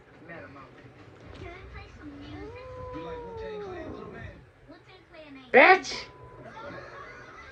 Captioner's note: growls